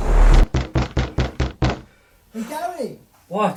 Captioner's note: Tommy knocking on door